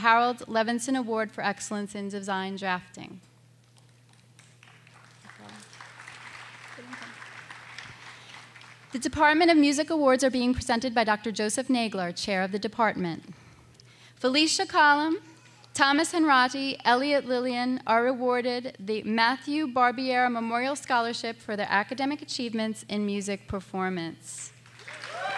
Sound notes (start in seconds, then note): 4.3 scattered applause